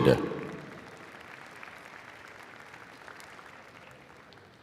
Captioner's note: audience applauding